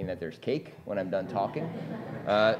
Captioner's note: laughter